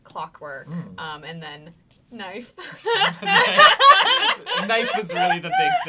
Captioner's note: all laughing